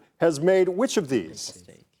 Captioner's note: team whispers